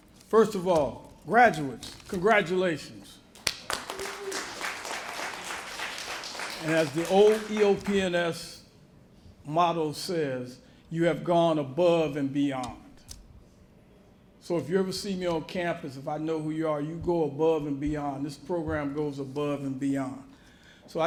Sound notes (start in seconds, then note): 3.3 applause